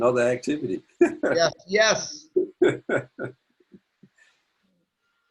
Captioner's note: laugh